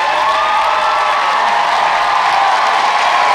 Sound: song ends, audience continues to cheer

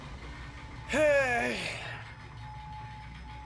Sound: sigh

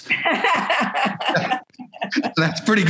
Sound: laughing

